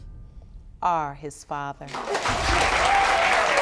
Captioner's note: audience applauding